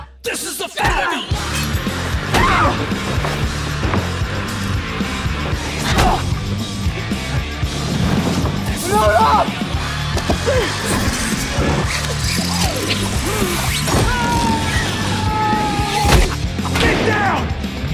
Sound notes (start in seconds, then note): 5.8 punch throwing; 11.4 wheels spinning; 14.3 man yells